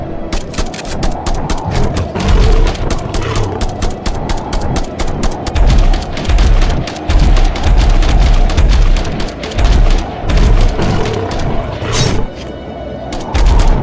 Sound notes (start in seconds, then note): 0.3 gun clicks; 0.3 gun blasting; 1.0 beast growls; 5.6 steps thudding; 9.5 beast growls; 11.8 claw clinks; 13.1 gun blasting; 13.1 steps thudding